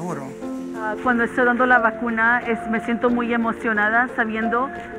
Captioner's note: speaking Spanish